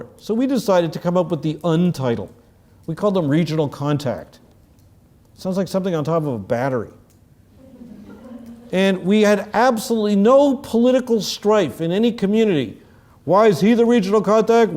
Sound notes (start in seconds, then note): 7.6 laugh